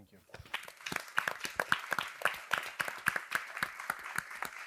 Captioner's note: audience applauding